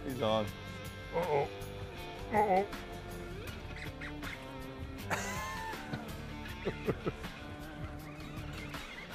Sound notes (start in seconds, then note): 2.2 light laughter